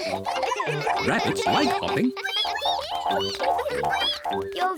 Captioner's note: all giggle; all squeak